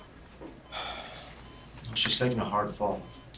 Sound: sighing

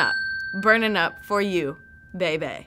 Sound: ding

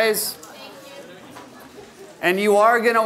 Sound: voiceover

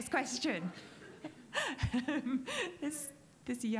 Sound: laughing

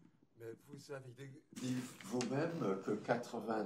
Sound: speaking french

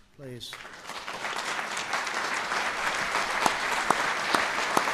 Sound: audience applauds

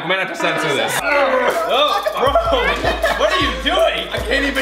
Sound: straining grunts; laughter

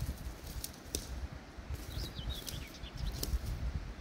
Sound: leaves rustling, twigs breaking

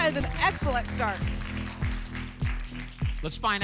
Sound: applause

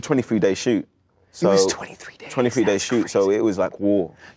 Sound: hushed

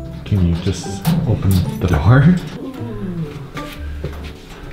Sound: laughing

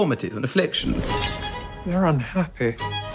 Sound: glass shattering

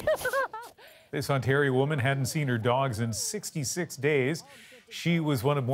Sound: laughter

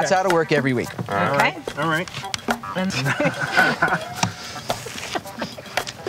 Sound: chuckling

